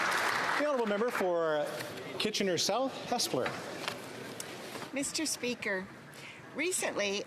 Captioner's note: applause